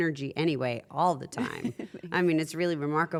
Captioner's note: laugh